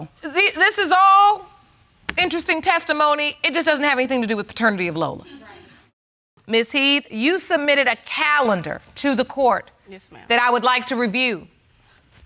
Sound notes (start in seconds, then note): 5.2 audience chuckle